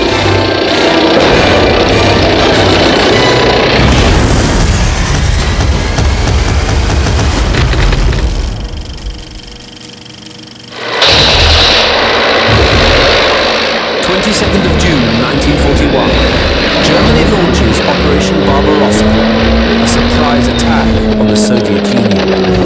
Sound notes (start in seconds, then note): 0.3 suspenseful music; 0.3 tank rumbling; 1.9 gun roars; 1.9 suspenseful music; 3.7 tank rumbling; 4.5 dramatic music; 8.7 film reel clicking; 10.9 suspenseful music; 10.9 tanks rumbling; 22.4 suspenseful music; 22.4 vehicles rumbling